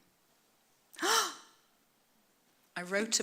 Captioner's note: gasps